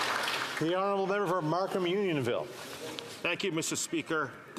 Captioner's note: some Applause